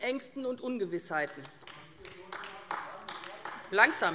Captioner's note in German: Beifall AfD - Zuruf CDU: Was ist Ihr Vorschlag?